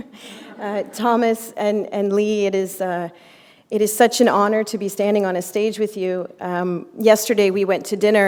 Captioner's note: chuckle